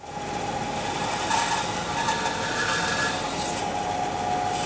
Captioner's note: high-pitched sawing noise